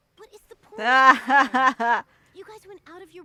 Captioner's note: laughs